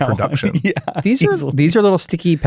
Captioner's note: chuckling